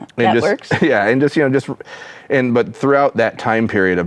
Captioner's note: chuckles